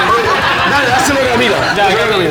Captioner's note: laughs